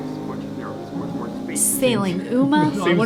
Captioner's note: people chattering